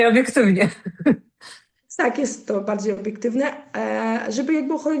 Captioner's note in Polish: śmiech